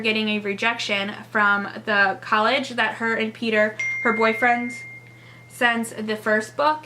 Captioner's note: phone text message chime